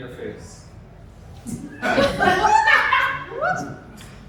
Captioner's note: laughter